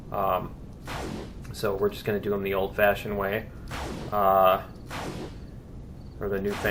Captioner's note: firing continues